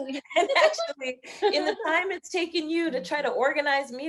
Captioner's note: both laughing